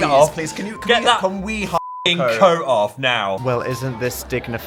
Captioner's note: beep